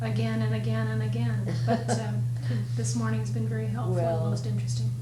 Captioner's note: laughs